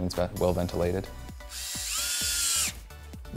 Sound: drill sound

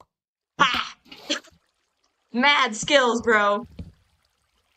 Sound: laughs

